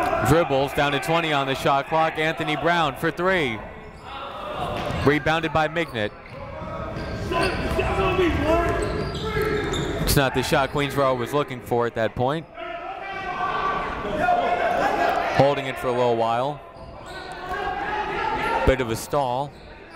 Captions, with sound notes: Dribbles, down to 20 on the shot clock. Anthony Brown for three. Rebounded by Mignot. (shouting) It's not the shot Queensborough was looking for at that point. Holding it for a little while. Bit of a stall.